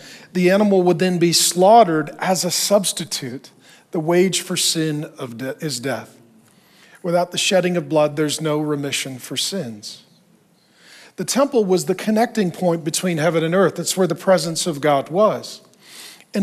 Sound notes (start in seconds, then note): none